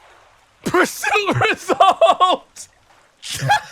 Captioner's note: laughing